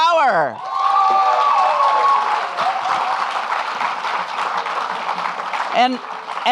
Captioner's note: audience clapping and cheering